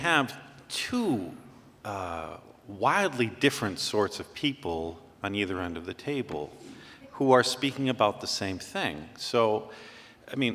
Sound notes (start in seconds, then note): none